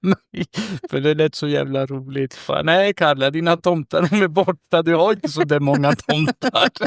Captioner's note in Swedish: skratt